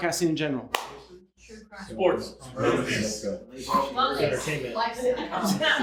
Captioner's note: audience answering